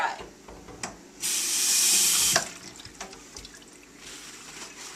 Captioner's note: water running; rustle of paper towels